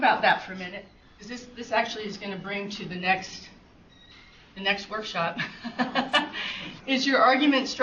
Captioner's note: chuckles